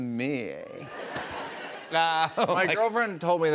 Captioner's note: laughter